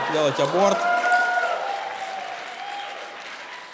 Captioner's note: cheering and applause